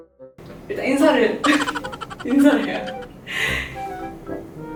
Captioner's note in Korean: 웃음소리